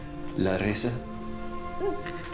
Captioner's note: speaking in foreign language